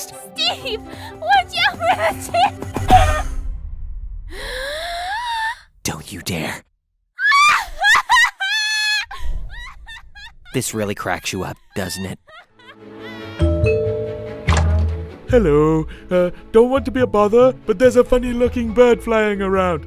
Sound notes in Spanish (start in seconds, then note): 4.3 inhala; 9.5 se muere de la risa; 13.4 ding dong